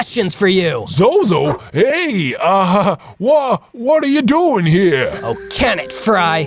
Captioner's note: surprised